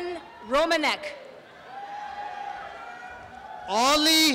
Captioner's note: applause and cheering